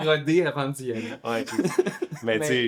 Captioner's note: laughs